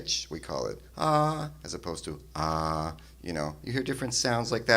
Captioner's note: higher pitch; lower pitch